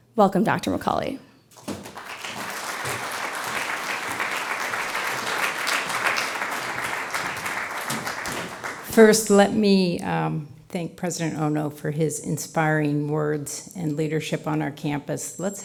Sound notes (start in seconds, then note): 1.5 crowd applauds